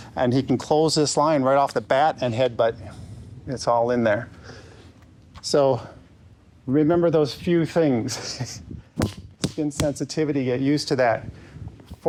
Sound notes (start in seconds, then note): 9.4 slap